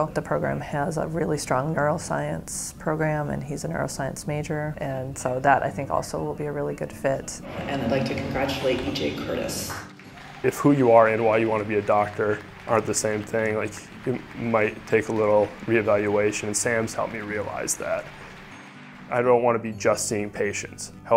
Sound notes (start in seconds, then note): 9.8 audience applauding; 9.8 crowd cheering